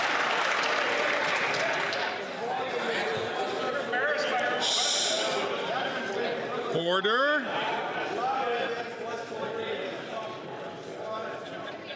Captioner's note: some Applause